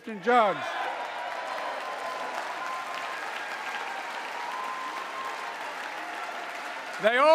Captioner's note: applause